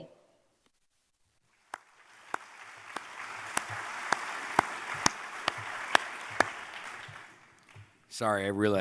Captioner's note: applause